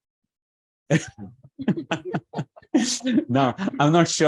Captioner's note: laughs